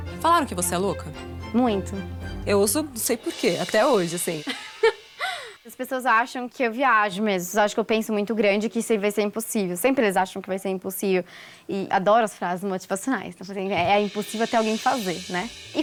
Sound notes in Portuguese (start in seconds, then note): 4.4 risos